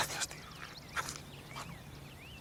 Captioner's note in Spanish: susurrando